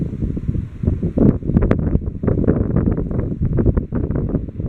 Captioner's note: wind sounds